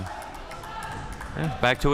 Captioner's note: crowd cheering